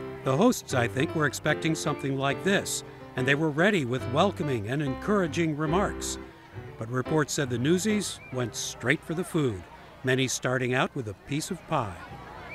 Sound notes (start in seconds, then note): 6.1 crowd chattering; 6.1 upbeat piano music